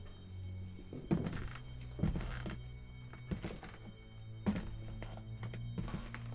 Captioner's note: footsteps, floor creaking